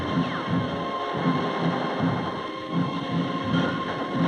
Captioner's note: gunfire; dramatic music